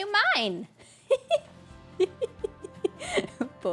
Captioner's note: laughs